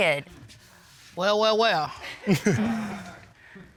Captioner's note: all chuckle